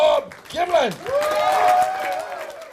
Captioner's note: cheers; applause